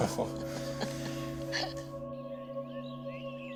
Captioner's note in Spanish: Risas